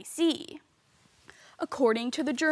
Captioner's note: rustling